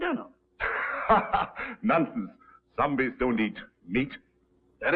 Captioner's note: chuckling